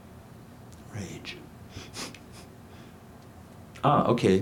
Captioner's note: snickers